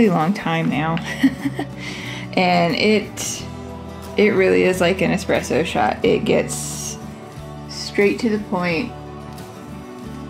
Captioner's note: laugh